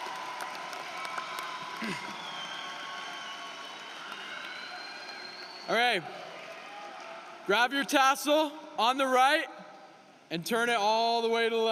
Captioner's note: cheering and applause